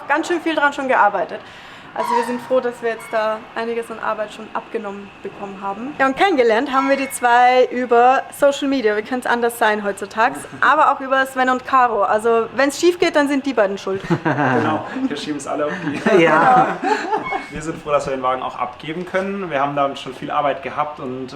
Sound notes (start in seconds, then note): 16.9 laughter